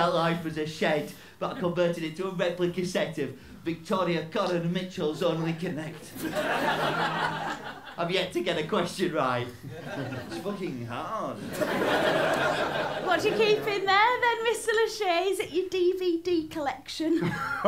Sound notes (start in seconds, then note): 6.0 laughter; 11.4 laughter